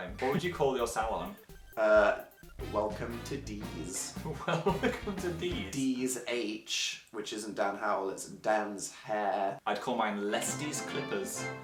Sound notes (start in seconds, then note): 4.2 laughing